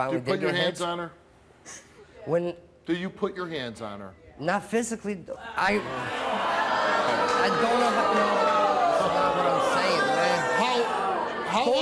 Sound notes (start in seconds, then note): 5.6 audience jeers